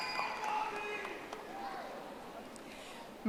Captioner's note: audience applauding